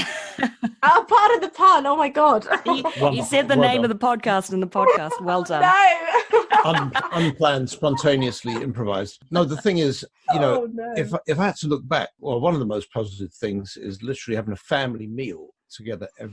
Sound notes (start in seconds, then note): 4.8 laughs